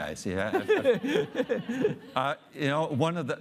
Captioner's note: audience laughing